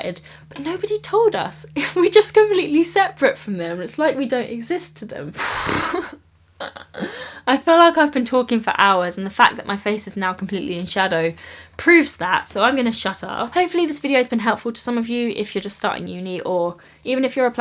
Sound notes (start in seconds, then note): 7.0 sigh